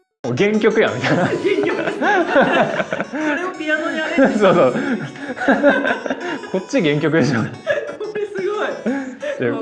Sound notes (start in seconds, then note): 1.7 laughs; 5.8 laughs